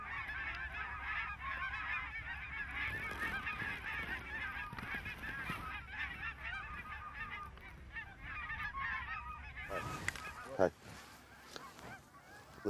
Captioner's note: geese honking